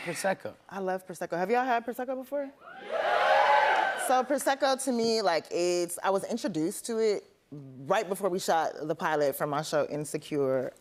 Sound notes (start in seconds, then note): 2.7 audience cheers